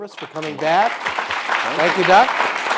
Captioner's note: audience applauding